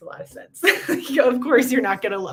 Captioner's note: laughter